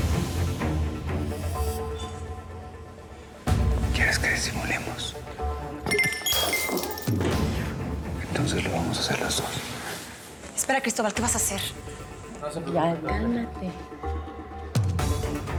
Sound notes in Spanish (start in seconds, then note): 5.8 ruido de cristales rotos